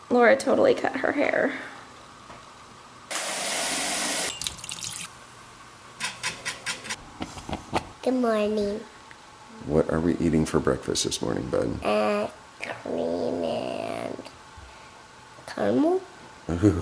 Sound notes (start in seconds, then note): 4.4 splashing water; 6.1 cooking noises